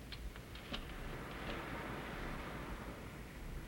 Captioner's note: waves crashing